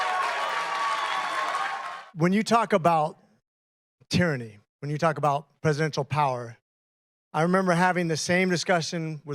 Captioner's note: cheering